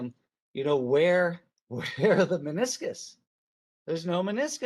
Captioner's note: chuckles